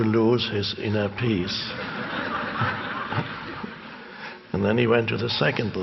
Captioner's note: audience laughing